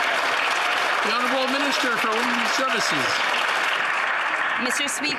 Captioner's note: some Applause